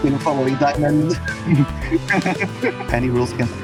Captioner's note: bird thief noises